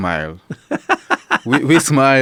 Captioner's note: laughing